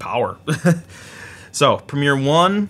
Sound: laughs

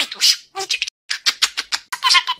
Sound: air kissing

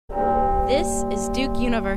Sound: bell ringing

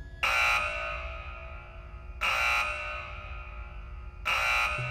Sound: alarm blaring

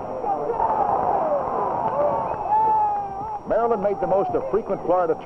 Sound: crowd shouting

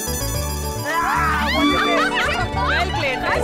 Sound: cheering

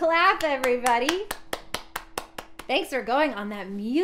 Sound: clapping

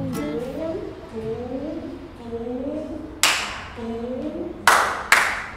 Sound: claps

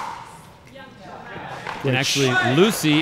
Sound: players chattering

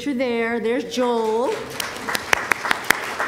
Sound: applause

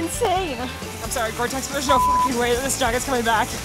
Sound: beeping

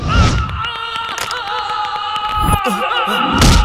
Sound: groans

